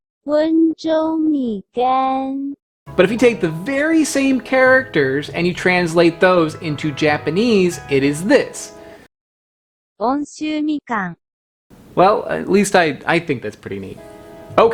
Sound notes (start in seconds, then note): 0.3 recorded voice speaking foreign language; 10.3 recorded voice speaking foreign language